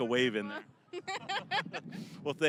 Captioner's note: both laughing